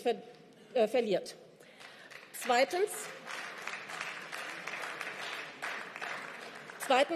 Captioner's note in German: Beifall